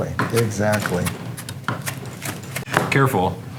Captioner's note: slicing